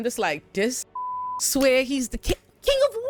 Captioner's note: beep